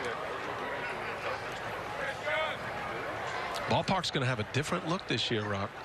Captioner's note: laughing